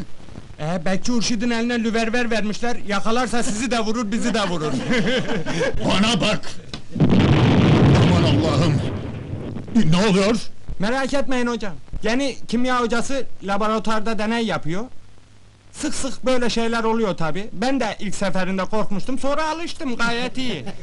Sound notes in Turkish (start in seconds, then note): 4.1 gülüşürler; 4.8 patlama sesi̇ geli̇r